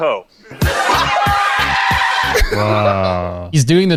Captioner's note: group laughs